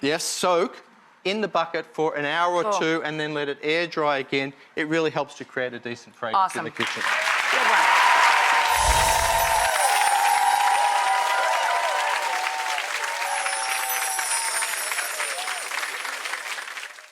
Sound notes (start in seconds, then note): 8.2 applause; 8.7 wind chimes